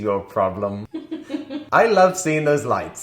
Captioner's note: laughing